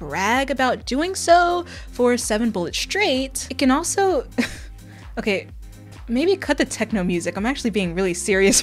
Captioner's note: laughter